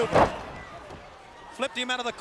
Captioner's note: mat thumping